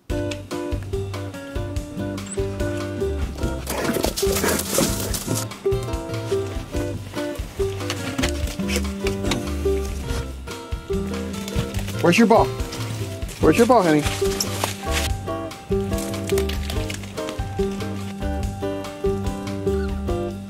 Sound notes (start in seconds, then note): 0.1 upbeat jazzy instrumental; 3.4 dogs panting, crunching leaves; 7.0 upbeat jazzy instrumental; 15.7 dog crunching grass; 18.2 upbeat jazzy instrumental